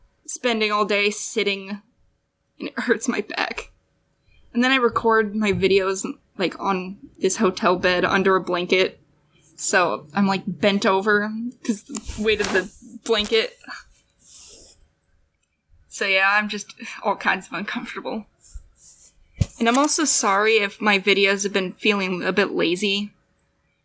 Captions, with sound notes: Spending all day sitting. And it hurts my back... And then I record my videos and like, on this hotel bed under a blanket. So I'm like, bent over 'cause the weight of the blanket. *shuffling* So yeah I'm just all kinds of uncomfortable. *shuffling* And I'm also sorry if my videos have been feeling a bit lazy.